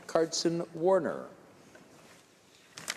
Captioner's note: speaking in french